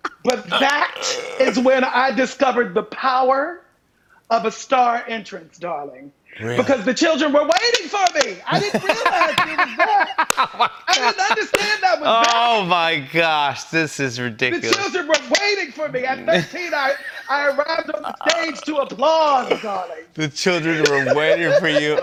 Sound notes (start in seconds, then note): 0.0 laughs; 8.4 laughing